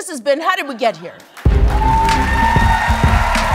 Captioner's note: applause